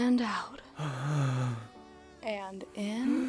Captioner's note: Noah breathes out